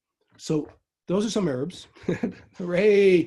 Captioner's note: chuckles